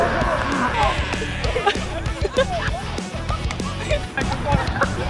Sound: laughs

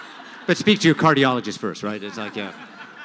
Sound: laughter; laughter

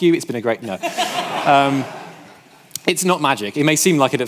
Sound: audience laughing

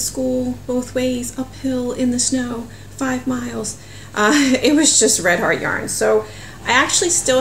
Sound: laughs

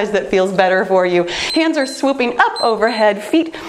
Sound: timer beeps

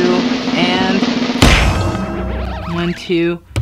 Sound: banging

